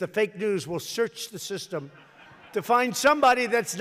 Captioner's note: laughter